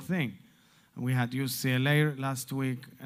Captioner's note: Hebrew